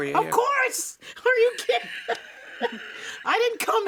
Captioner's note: laughs